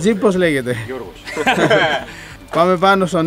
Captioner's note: laughs